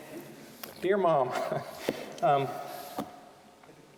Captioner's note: chuckling